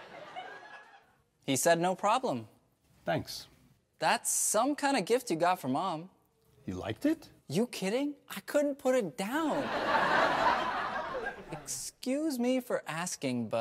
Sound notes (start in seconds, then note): 9.5 audience laughs